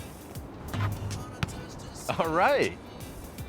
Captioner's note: basketball thunks